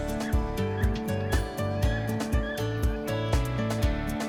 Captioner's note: upbeat music; birds quacking